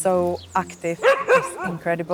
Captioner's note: Remy barks